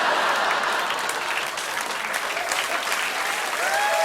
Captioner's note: laughter; cheers and applause